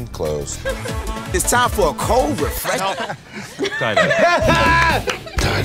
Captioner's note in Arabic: يضحك